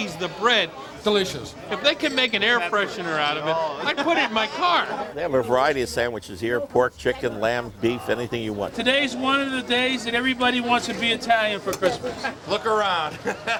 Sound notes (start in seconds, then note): 9.8 laughs